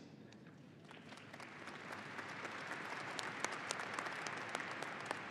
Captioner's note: audience applauding